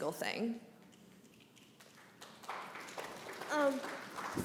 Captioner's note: applause